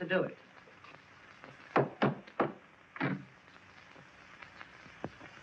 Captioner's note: hammer tapping